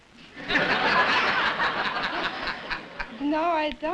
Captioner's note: laughter